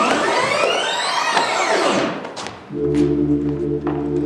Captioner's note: tape rewinds